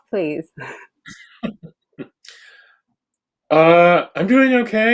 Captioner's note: laughs